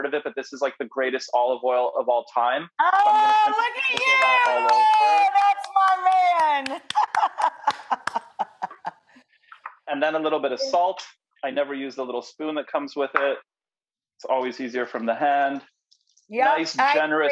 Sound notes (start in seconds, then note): 3.0 screams; 6.3 laughs